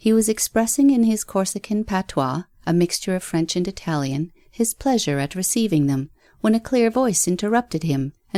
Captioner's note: a mixture of French and Italian